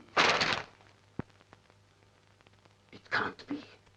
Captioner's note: paper rustling